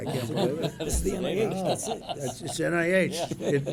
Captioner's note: laughter